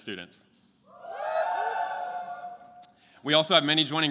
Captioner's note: attendees cheering